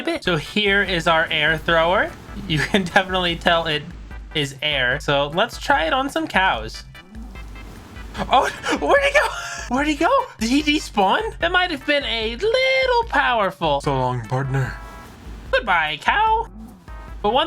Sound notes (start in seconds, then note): 7.1 air wooshing; 13.9 cowboy impression